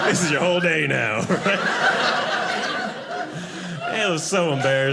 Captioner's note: audience laughing